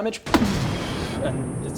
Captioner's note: booooommmm